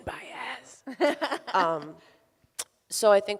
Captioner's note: laughs